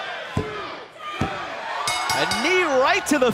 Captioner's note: bell ringing